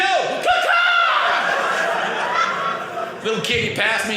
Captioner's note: audience laughing